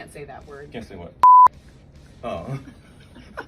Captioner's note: beeps